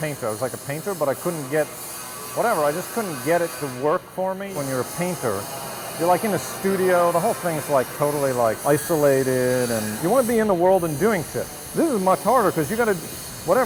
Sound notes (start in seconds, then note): none